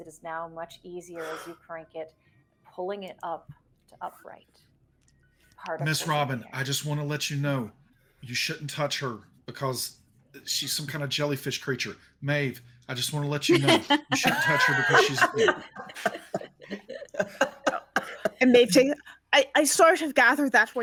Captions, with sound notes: It is now much easier as you crank it, pulling it up to upright. - Miss Robin, I just wanna let you know you shouldn't touch her because she's some kind of jellyfish creature. Maeve, I just wanna let you know you shouldn't touch her because she's... (people laughing) - And Maeve says, I sort of gathered that